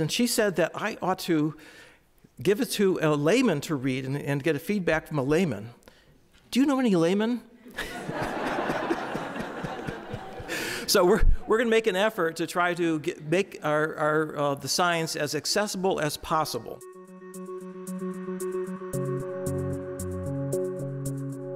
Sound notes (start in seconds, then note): 7.7 audience laughing; 16.8 pensive synthesizer and percussion music